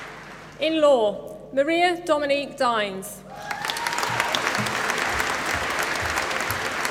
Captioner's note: applause